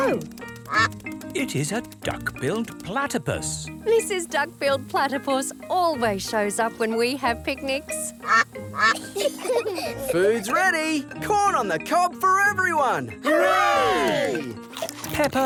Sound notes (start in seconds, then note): 0.0 quacking; 7.9 quacking; 8.7 children giggle